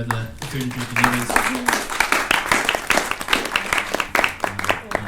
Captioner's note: attendees clapping